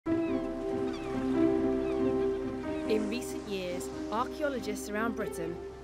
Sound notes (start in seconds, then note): 0.0 gentle orchestral music; 0.1 seagulls squawking